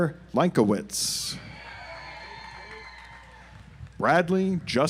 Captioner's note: audience applauds